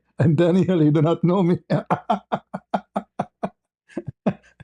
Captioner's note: ketawa